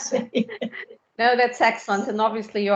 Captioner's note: in Spanish: Sí